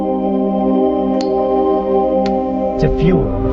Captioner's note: zippo flick